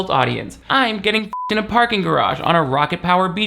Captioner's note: beep